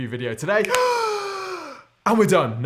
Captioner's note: deep breath